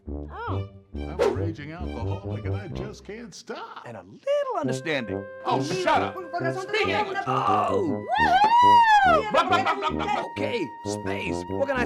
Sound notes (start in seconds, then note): 6.4 yelling in foreign language